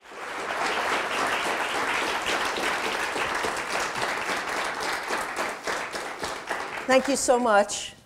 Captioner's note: audience applause